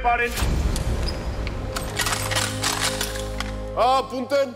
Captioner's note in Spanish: Sonido de las armas